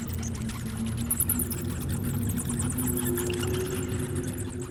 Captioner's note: bats chittering, wind blowing, water dripping